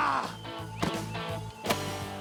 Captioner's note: crack of the club